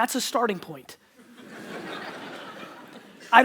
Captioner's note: audience laughter